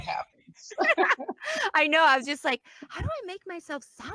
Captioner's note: laughs